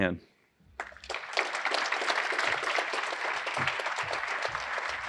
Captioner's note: applause